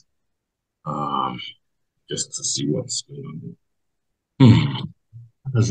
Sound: mumbles to self

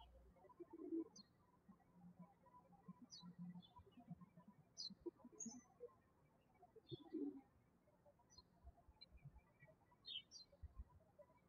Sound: birds chirping

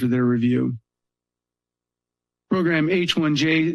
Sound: pause

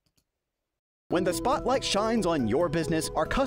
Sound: voiceover

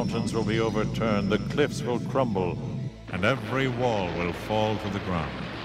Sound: explosions booming

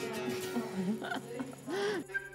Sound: laughs

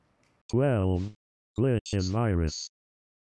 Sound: robot Voice

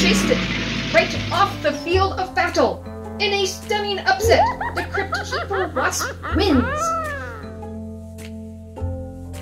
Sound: Sound of Crypt Keeper cackle

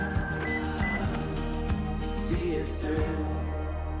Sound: car beeps

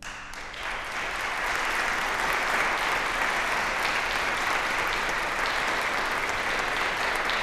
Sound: applause

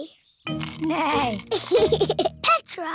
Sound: neighs and giggles

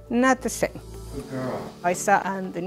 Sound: indistinct conversation

